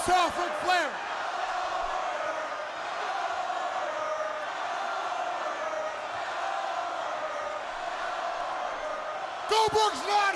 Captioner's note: crowd cheering